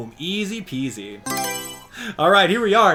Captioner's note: Mario Selection Sound